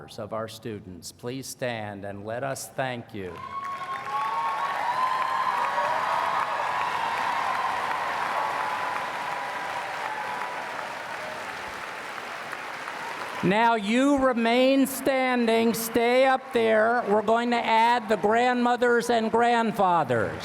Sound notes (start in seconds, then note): 3.3 cheers and Applause